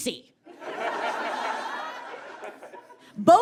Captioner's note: audience laughs heartily